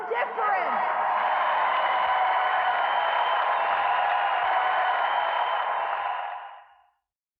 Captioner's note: applause, cheers